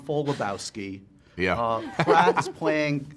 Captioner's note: laughter